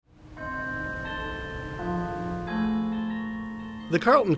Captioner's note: cathedral bell ringing